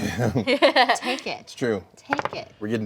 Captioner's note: laughs